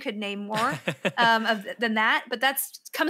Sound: laughs

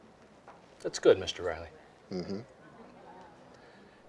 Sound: mmhmms

